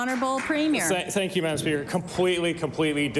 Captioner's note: applause